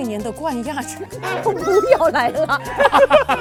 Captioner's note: laughs